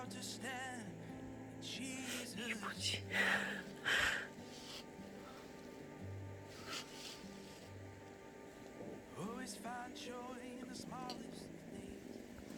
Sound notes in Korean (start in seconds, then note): 3.6 웃음; 4.2 소근소근